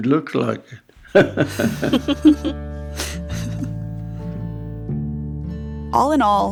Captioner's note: laughter